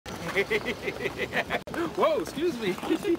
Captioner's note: laughs